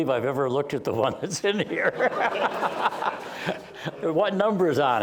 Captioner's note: laughter